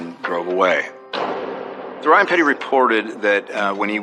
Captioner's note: dodoor s slalams